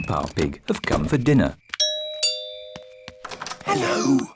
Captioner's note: rings doorbell; oinks